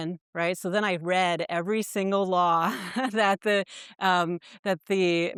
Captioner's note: chuckles